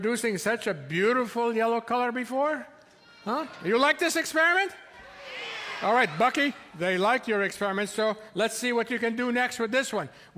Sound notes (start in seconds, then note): 5.0 audience yelling